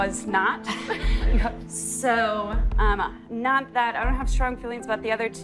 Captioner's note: laughter